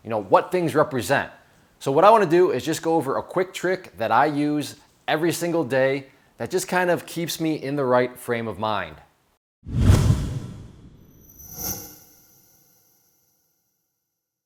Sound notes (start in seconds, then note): 9.6 whooshing